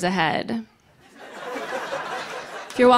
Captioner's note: laughter